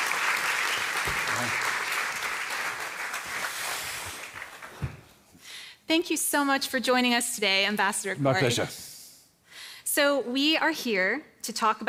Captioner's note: applause